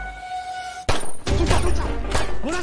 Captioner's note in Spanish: Disparos